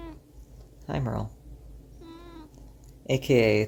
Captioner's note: meow; meow